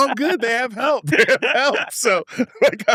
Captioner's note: laughs